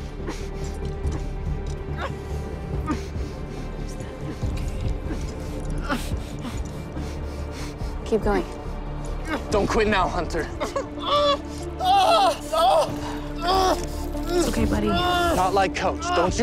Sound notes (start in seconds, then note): 11.8 screaming